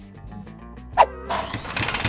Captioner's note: air whooshes; devices whirring